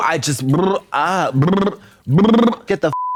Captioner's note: Katya trills; beep